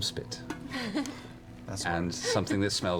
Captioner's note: laughs